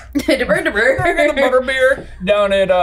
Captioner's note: laughing